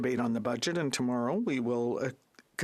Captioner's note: speaking French